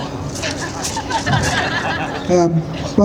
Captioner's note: laughter